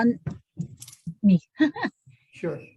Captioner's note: giggling